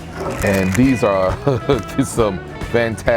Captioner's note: laughs